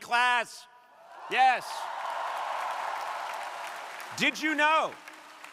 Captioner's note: crowd applauding